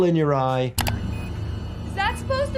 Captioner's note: machine beeps